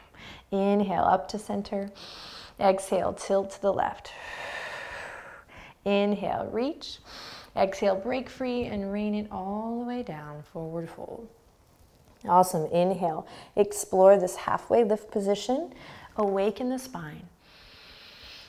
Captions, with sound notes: Inhale, up to center. Exhale, tilt to the left. (exhaling) Inhale, reach. Exhale, break free and rain it all the way down, Forward Fold. Awesome, inhale. Explore this halfway lift position. Awaken the spine.